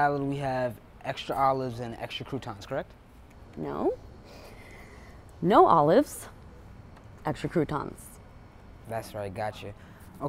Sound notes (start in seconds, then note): none